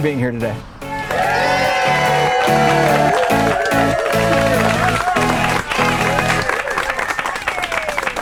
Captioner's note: audience cheering